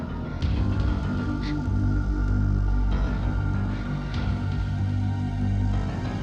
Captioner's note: Katherine breathes uneasily